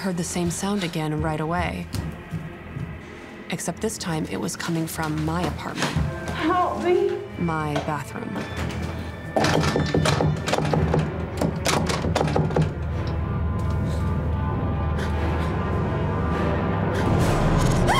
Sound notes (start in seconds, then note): 9.4 knocks